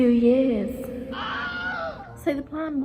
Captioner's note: man screaming